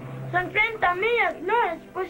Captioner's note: Spanish spoken language